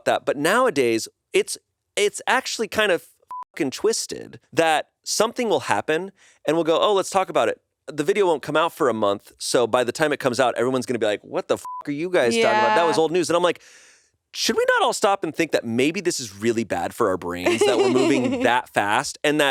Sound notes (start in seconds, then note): 3.3 beep; 11.6 beep